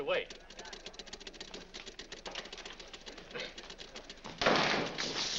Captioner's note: machines clicking; door slams